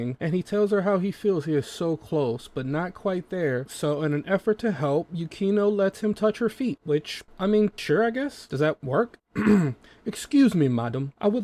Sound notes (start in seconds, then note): 9.3 clear throat